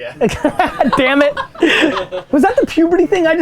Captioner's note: group laughter